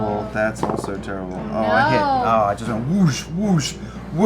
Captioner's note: whooshing